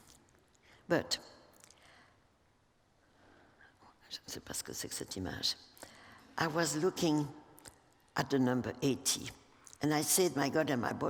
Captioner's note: speaking french